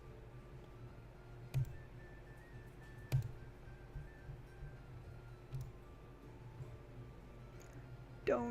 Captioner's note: clicking, typing